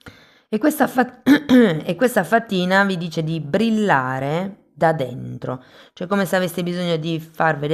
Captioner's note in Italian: schiarire la voce